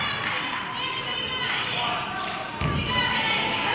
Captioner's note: cheering and clapping; players hollering